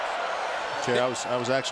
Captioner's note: crowd cheering